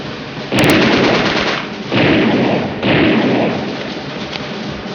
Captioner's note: gunfire rattling